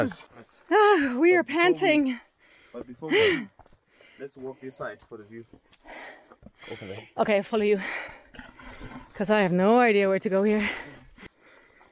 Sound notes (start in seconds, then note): 10.9 pant